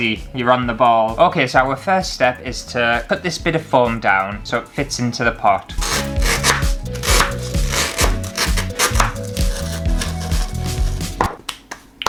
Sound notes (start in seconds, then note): 5.7 music & Foam Crunching; 11.2 clap, Clap, Clap